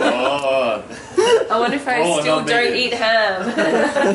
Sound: laughs

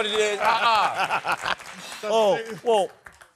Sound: laughing

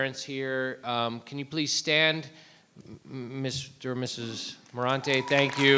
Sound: applause

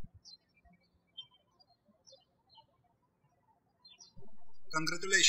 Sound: birds chirping

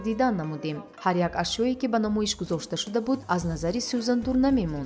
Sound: indistinct chatter

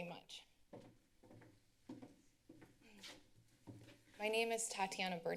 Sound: footsteps

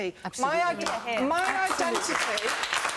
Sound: audience applauds

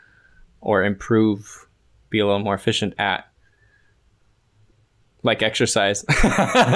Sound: laughter

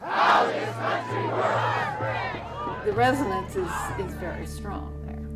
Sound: chanting

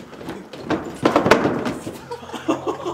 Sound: body clatters; all laughing

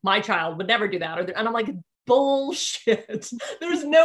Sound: laughing

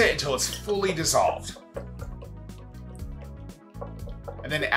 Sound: liquid sloshes

